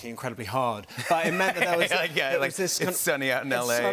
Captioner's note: laughs